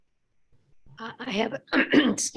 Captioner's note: clears throat